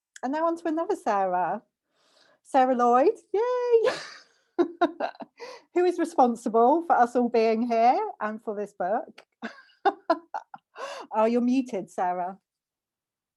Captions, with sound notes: And then onto another Sarah, Sarah Lloyd, yay, (laughter) who is responsible for us all being here and for this book. (laughter) Oh, you're muted Sarah.